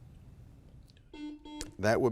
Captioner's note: buzzer blaring